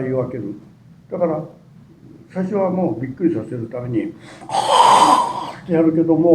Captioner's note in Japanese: 息吹